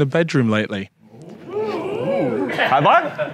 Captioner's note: audience cheers